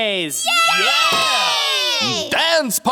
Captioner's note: cheering